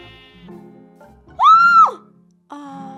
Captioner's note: scream